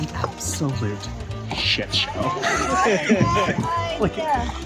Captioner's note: laughs